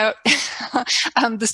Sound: chuckles

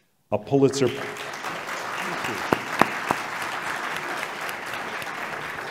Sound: applause

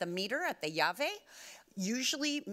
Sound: speaking Spanish

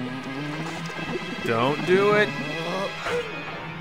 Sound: voiceover

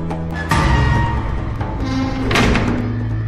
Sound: jail cell closes

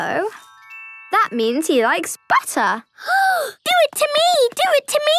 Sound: gasping

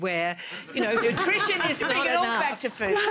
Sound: laughter

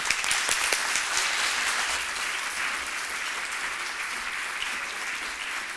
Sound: applause

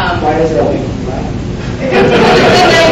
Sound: audience laughs

